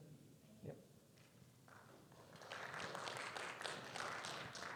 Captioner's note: audience clapping